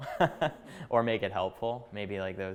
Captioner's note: chuckling